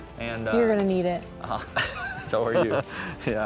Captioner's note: chuckling